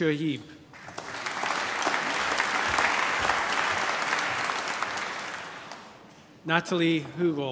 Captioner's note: applause